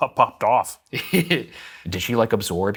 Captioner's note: laughing